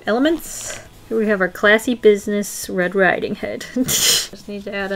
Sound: laughs

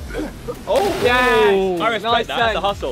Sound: waters splashing

